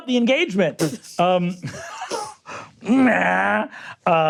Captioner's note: laughs